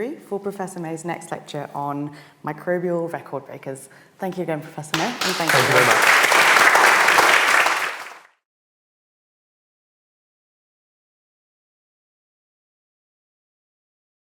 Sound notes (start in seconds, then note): 4.9 audience applauding